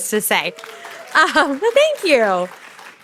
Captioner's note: audience claps